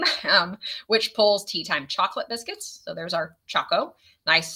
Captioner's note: chuckles